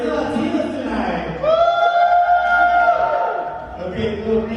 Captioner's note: audience cheering